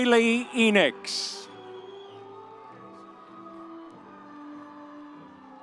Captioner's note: audience cheering